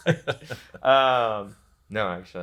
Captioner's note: pair laughs